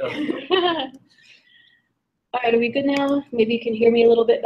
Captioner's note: laugh